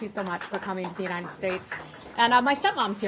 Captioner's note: applause